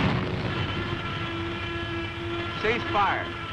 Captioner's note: airplane falling toward ground